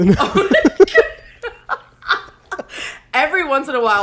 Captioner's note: both laugh